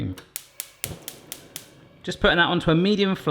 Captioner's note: stove clicking